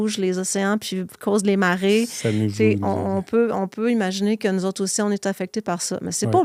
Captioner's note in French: grognement